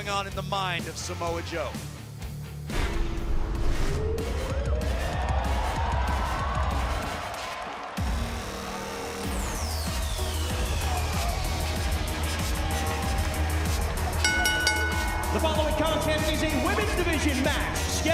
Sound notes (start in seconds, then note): 4.5 crowd cheering; 14.2 bell ringing